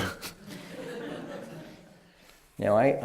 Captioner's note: laughter